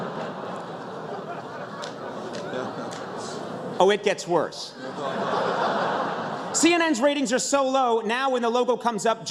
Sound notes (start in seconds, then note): 3.8 oohs; 4.8 laughter